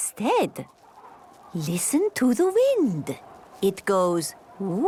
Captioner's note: wind blowing